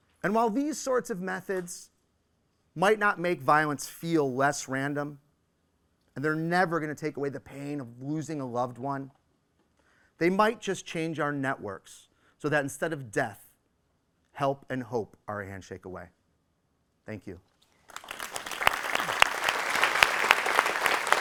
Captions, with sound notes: And while these sorts of methods might not make violence feel less random and they are never gonna take away the pain of losing a loved one, they might just change our networks so that instead of death help and hope are a handshake away. Thank you. (applause)